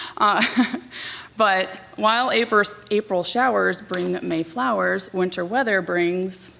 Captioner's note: laughs